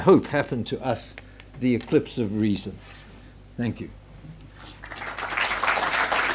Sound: applause

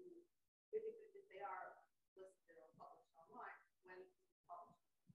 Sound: voice muffling; voice muffling

